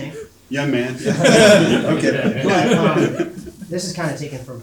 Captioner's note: audience laughing